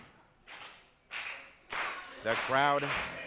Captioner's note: crowd clapping